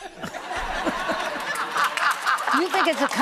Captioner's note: audience laughing